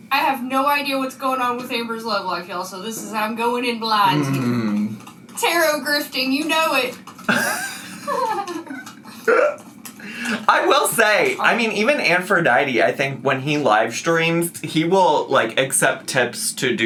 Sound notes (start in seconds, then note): 7.2 laughs